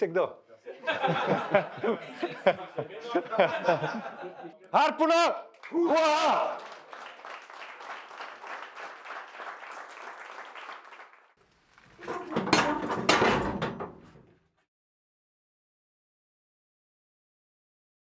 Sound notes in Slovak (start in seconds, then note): 9.8 Potlesk